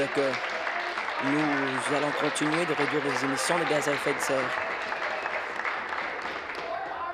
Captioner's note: applause